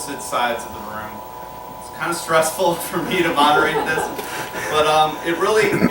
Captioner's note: laughter